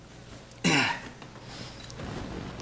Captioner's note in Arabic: سعال